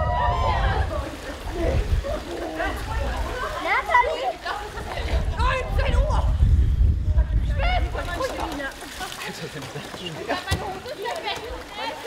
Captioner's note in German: Stimmengewirr, Sprachfetzen, Gelächter